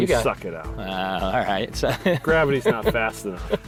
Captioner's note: laughing